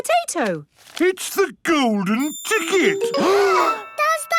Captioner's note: gasps